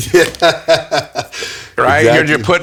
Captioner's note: laughing